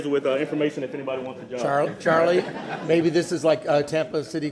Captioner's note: laughter